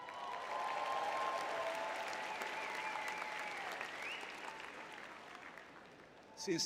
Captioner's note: audience cheering